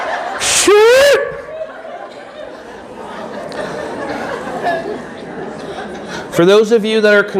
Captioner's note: audience laughing